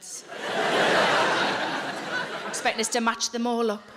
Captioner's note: audience laughs